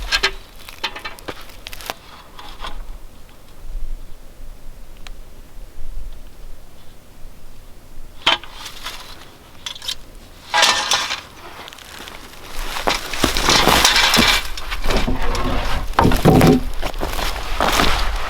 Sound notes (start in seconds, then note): 8.9 level clanging; 14.8 board thudding